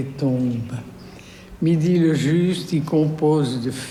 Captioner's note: speaking french